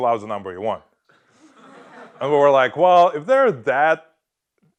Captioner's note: laugh